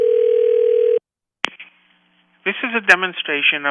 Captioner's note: telephone line continues to ring; telephone line picks up